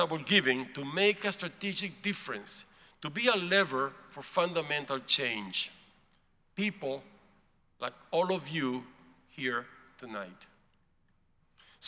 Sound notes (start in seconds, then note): none